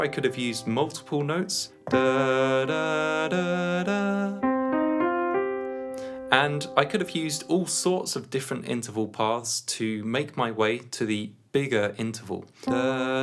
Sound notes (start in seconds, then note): 1.9 hums while playing notes; 12.7 hums while playing notes